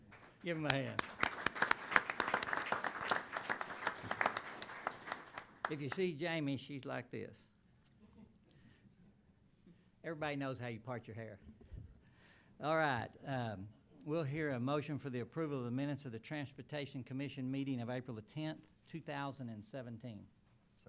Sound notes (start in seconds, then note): 0.0 applause